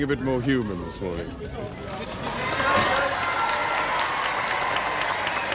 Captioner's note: crowd cheering